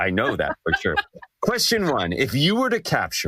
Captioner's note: laugh